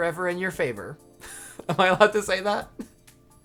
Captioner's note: laughing